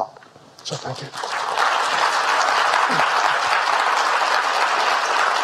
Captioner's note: audience applauding